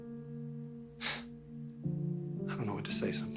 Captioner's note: Michael sighs